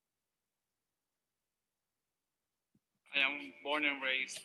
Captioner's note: silence